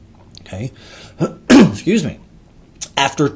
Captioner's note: throat clearing